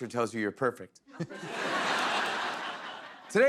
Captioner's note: laughter